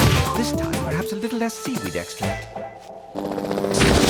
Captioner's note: yelling